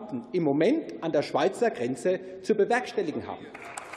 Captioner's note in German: Beifall